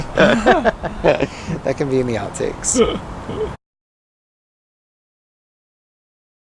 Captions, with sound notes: That can be in the outtakes. (man laughing)